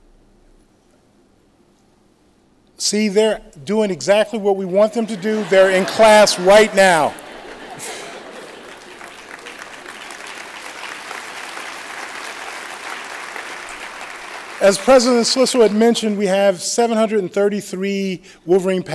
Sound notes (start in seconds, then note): 5.0 laughter; 9.3 applause